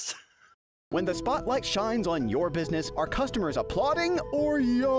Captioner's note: voiceover